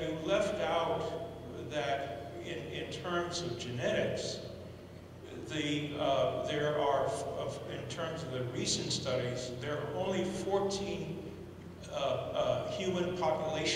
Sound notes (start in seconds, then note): none